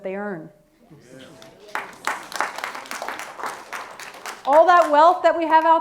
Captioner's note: audience clapping